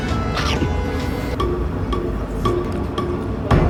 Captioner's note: chew chew